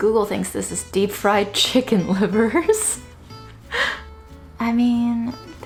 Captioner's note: laughs